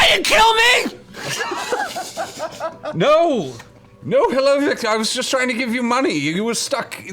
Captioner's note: coughing; laughs